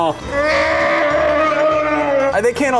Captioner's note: Chewbacca roar